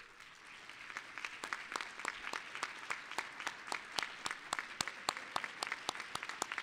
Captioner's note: applause